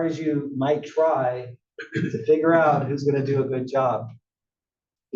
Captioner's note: cough